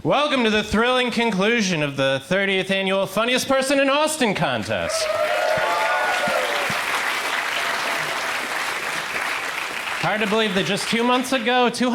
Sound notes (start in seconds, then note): 4.9 crowd applauds